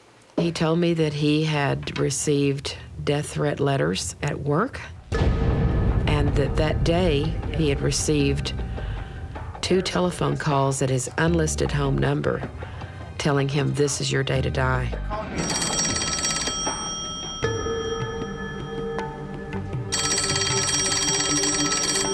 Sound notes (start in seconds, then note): 15.3 telephone ringing